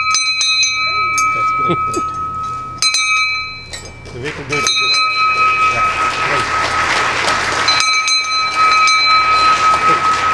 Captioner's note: bell rings; applause